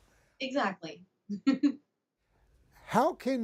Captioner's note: chuckles